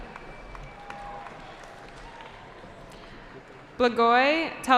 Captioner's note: cheering